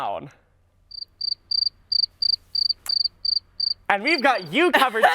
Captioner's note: crickets